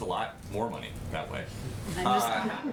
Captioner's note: laughter